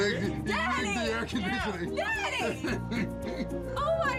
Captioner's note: laughter